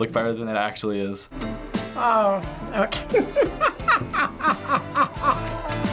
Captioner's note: laughs